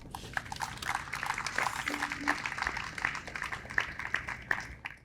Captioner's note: audience applauds